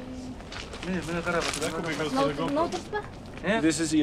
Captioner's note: man and woman speak in Mongolian